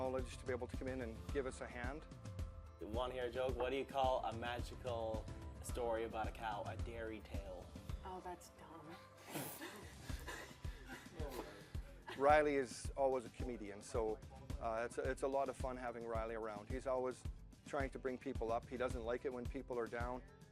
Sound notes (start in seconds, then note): 9.4 laughing